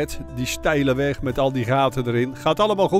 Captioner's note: voiceover